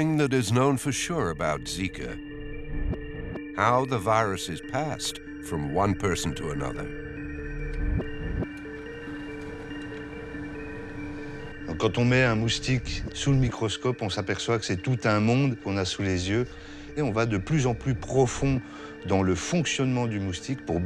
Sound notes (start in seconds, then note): 11.8 man speaks in foreign language